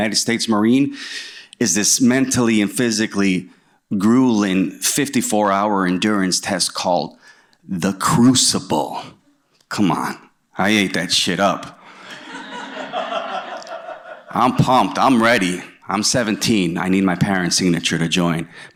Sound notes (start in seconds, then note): 12.0 laughter